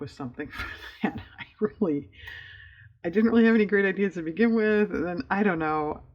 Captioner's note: laughs